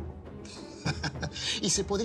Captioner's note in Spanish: Risas